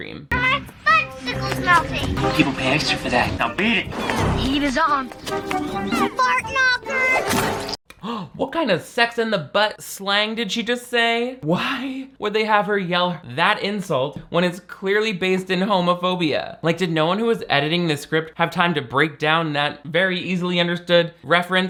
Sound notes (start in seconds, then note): 7.9 gasps